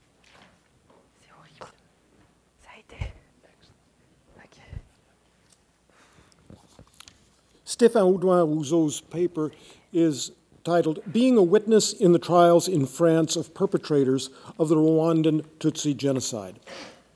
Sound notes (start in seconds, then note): 1.2 man whispering faintly